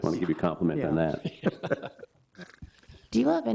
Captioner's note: all laughing